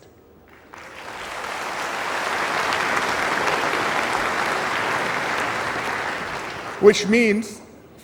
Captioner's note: applause